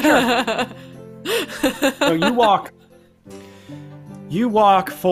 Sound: laughing

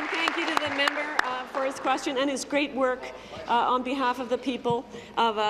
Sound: applause

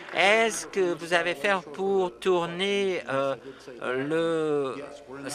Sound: applause

